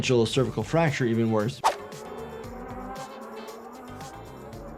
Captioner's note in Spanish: el motor ruge